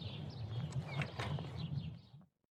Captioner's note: door closes